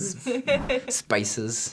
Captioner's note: laughing